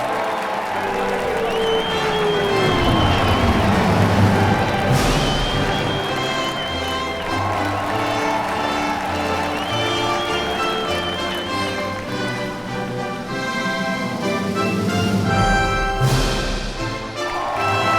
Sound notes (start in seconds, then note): 4.2 🎼 Patriotic Music🎵; 4.2 👏 Cheers😮